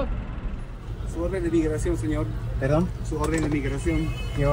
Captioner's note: in Spanish